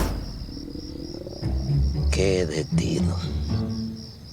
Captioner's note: stomach grunts